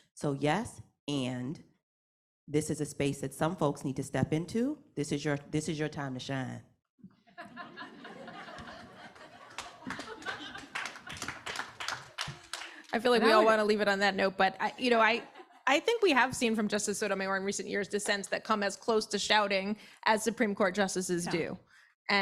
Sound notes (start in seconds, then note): 7.4 audience laughing and applauding